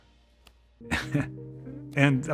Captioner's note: laughing